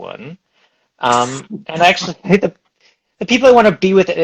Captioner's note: laughs